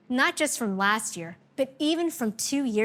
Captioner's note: none